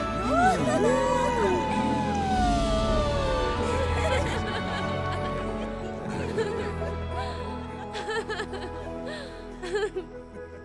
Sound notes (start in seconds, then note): 0.2 Todos exclaman y ríen; 7.9 Todos ríen